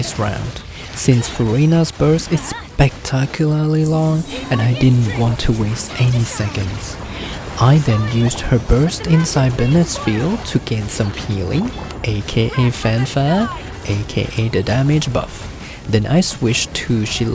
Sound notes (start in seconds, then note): 4.1 haha